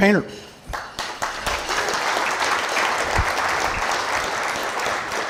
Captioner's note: audience applauding